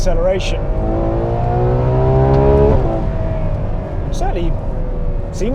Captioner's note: revving continues